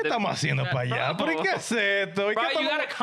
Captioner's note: speaking In Foreign Language